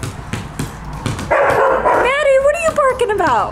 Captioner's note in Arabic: ترتد الكرة; ينبح الكلب